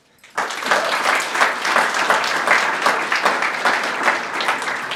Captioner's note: audience applauding